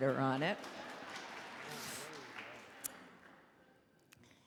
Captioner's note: audience applauding